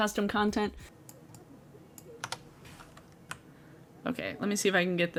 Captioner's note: mouse clicks